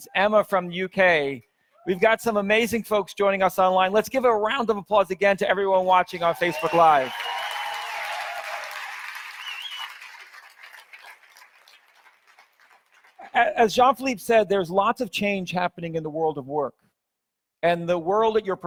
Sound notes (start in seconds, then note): 6.1 audience cheers; 6.2 audience applauds